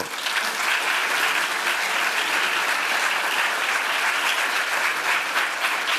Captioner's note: applause